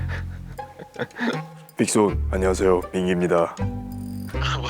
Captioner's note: broadcast voice, extra deep